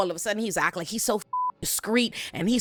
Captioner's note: beep